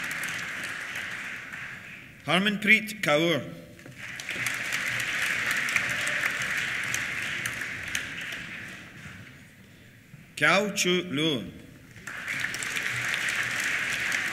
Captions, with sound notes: Harmanpreet Kaur. (CHEERS) (APPLAUSE) Qiaochu Luo. (CHEERS) (APPLAUSE)